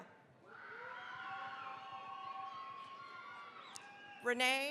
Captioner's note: cheering, applause